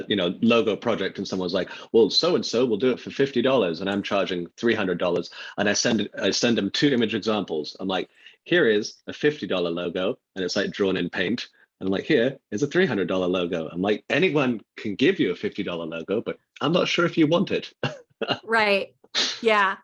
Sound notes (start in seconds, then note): 17.7 laughing